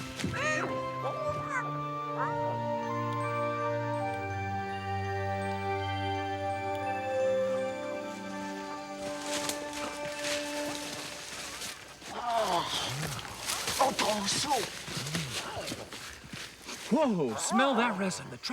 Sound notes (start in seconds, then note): 0.1 soft music; 3.3 tap drips; 9.5 leaves rustle